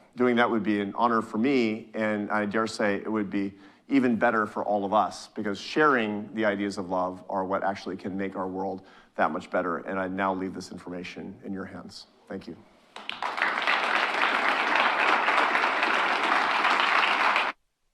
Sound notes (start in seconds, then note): 12.9 audience applauding